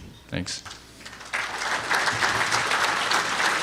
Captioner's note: applause